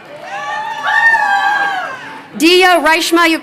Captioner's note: crowd cheering